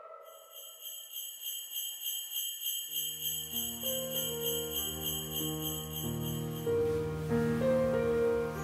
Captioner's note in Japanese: 鈴の音